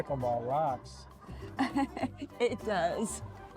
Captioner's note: laughs